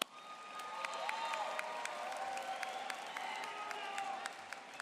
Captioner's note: applause